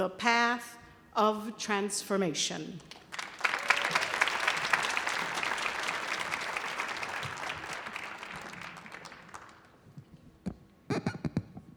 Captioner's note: audience applauding